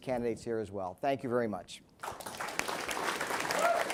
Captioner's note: applause